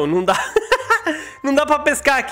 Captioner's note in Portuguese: Risos